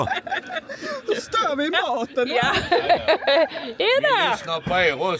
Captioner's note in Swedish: skratt